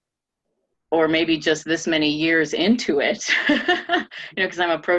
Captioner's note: laughing